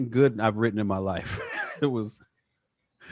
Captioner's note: chuckles